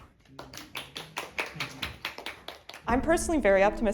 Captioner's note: group applauds